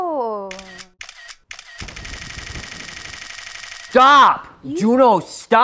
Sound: phone shutter clicking

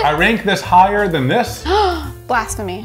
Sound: gasping

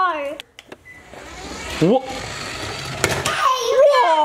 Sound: car whirring

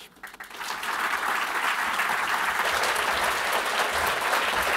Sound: applause

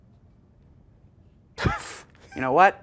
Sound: both chuckling

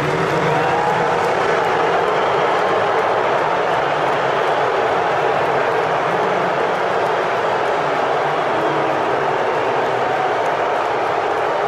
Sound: boos

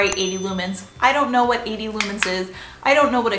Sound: bell dinging; clicking

